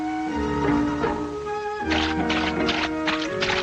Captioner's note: mud splashing; light, airy music